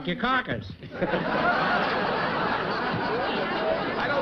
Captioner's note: chuckling